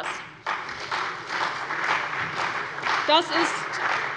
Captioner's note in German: Beifall bei der CDU und dem BÜNDNIS 90/DIE GRÜNEN